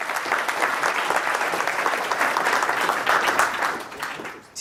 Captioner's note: audience applause